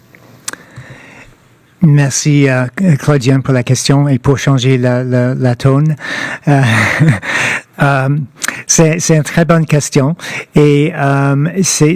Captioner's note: speaking french